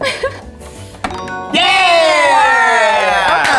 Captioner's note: laughs; tone chimes